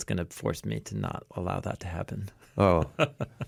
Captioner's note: laughs